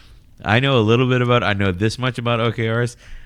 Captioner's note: uh